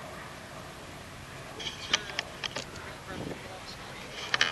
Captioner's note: clanking noise - sound